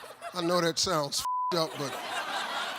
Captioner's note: audience laughs; beep; audience laughing and applauding